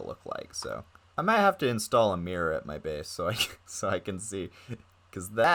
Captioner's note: chuckling